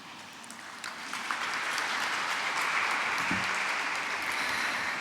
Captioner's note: applause